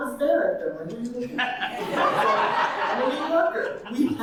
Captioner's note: audience laughing